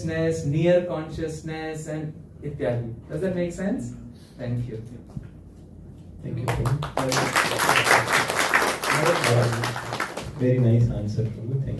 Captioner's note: applause